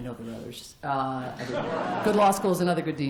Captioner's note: laughter